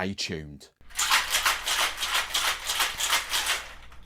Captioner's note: ice shaking